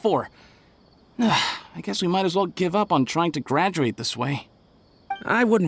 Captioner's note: sigh